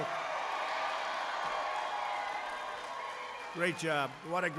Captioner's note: applause